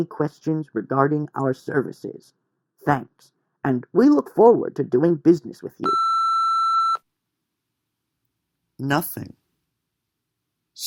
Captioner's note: beep